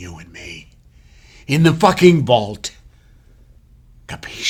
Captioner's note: speaks foreign language